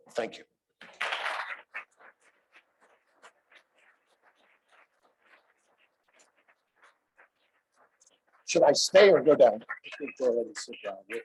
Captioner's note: applause